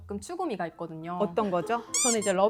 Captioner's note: anxious voice